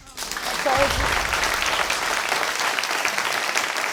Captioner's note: applause